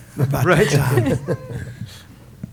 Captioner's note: laughter